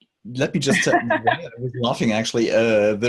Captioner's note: host laughs